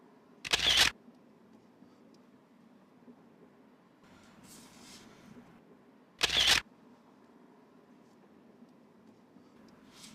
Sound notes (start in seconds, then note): 0.4 camera shutter clicking; 6.2 camera shutter clicking